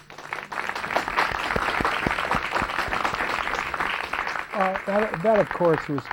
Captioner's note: applause